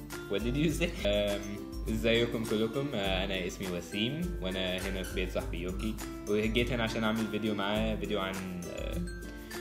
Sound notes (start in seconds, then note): 1.5 Arabic